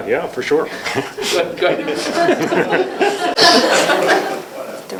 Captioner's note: laughter